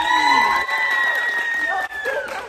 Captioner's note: applause